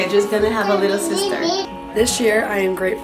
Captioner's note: babbling